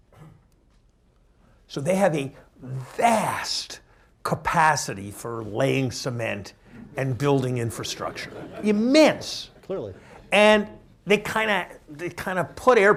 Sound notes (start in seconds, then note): 7.8 laughter